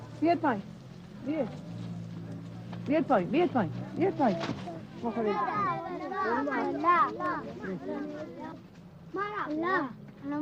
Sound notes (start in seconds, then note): 5.9 children chattering